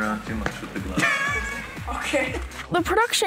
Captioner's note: laughs